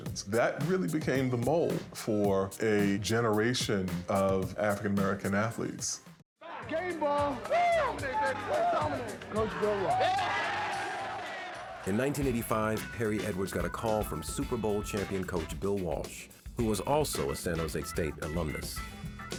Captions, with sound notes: That really became the mold for a generation of African-American athletes. -Game ball. -Whoo! -Game day, baby. Let's dominate. -Coach Bill Walsh. [ Cheers and applause ] -In 1985, Harry Edwards got a call from Super Bowl champion coach Bill Walsh, who was also a San Jose State alumnus.